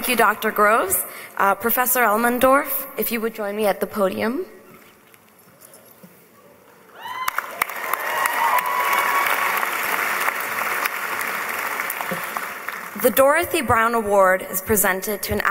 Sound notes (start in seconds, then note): 7.1 applause